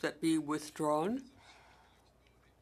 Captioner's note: speaking French